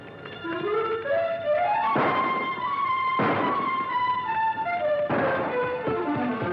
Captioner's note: suspenseful music; guns firing